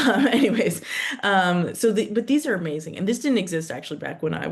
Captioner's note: chuckles